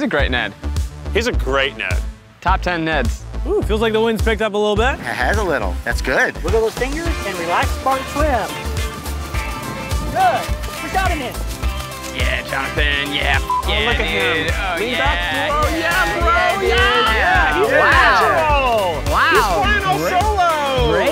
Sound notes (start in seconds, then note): 13.4 beep; 15.5 cheering